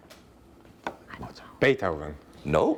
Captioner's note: whispering